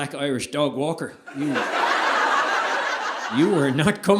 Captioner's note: audience laughing